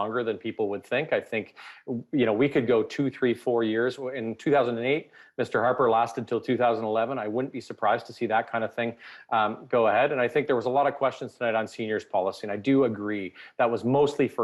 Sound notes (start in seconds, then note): none